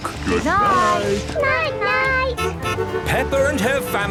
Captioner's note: honking